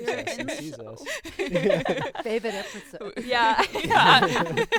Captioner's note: group laughing